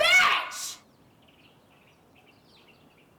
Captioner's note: birds chirp